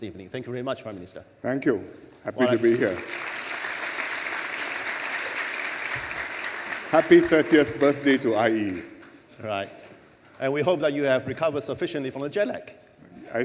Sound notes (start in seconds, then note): 2.4 applause